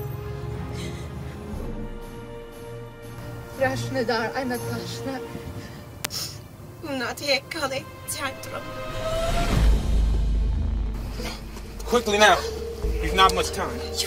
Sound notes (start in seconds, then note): 8.3 sqeeeeeet